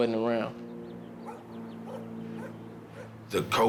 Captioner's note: dog barks